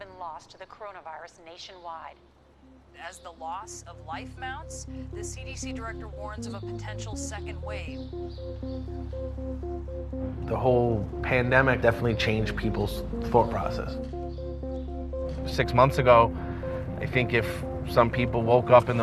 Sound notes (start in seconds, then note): none